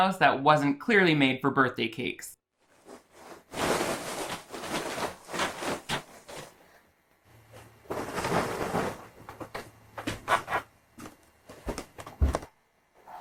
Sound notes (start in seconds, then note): 2.6 covers rustling